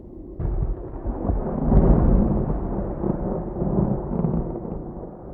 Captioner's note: thunder